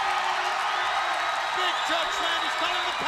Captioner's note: crowd cheering